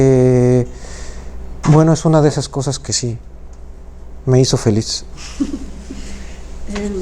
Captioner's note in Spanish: Risas